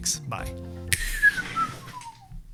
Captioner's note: whistles